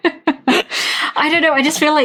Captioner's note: laughing